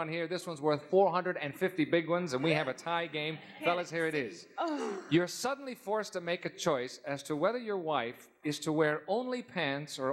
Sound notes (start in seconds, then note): none